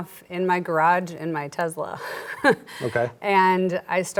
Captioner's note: chuckles